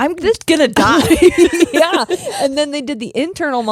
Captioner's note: both laughing